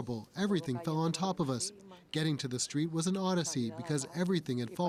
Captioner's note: speaking Spanish